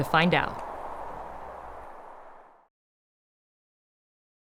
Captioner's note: wind whooshing